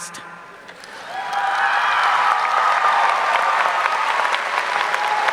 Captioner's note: audience cheering